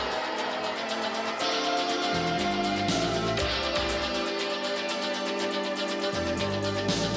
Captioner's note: crowd chatter